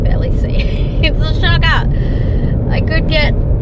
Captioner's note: exasperated